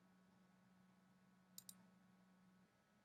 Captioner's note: screen scrolling stops; clicking sound